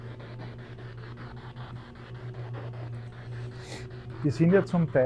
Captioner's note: radio noise from the spirit box